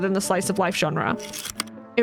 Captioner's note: projector slide click